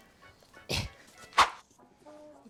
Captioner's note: grunts; woosh